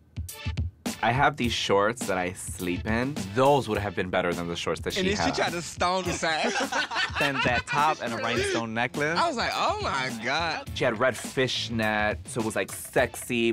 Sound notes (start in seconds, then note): 6.0 all laughing